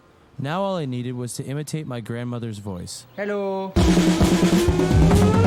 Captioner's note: 印度口音; indian Accent